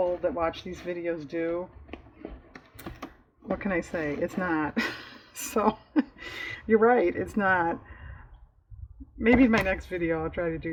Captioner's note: laughs